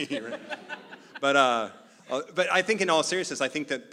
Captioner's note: laugh